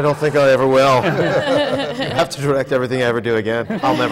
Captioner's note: laughter